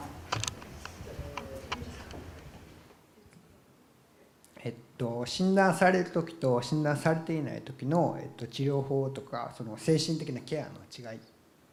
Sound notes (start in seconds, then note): 7.2 foreign language